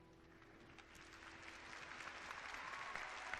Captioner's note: clapping